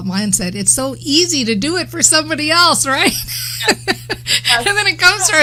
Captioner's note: laughs